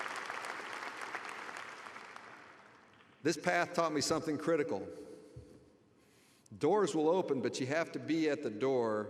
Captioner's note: applause